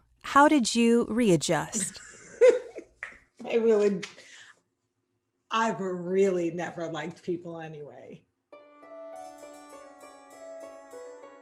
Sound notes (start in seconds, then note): 2.3 laughing; 8.6 gentle music